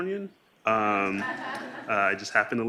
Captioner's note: laughing